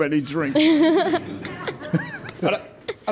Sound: laughing

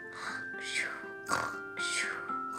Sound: snoring

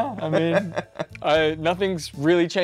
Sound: laughing

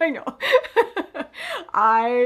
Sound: chuckles

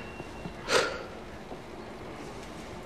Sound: microphone feedback; benton sighs

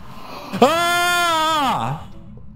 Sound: arkansan screaming

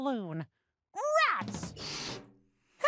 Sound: balloon inflates

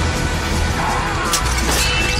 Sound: shrieks

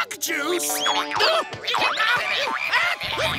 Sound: shouting

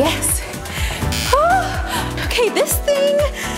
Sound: timer buzzing

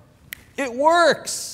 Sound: finger snapping

